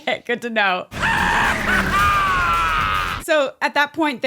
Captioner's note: laughs